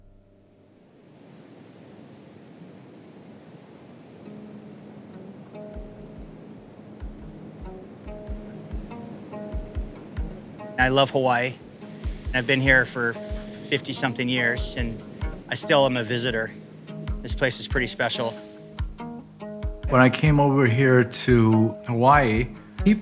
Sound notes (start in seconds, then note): 1.3 waves crashing; 4.6 gentle adventurous music